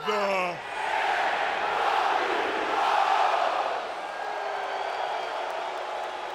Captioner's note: cheer